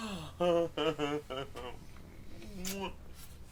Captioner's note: chuckling